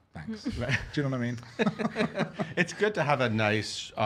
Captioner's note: laughing